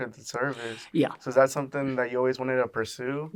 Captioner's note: inhales